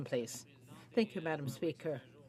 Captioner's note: speaking French